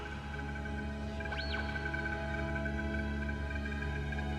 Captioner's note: squeals; low trilling